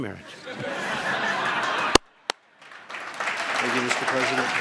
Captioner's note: laughter and applause